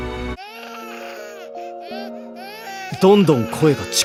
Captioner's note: crying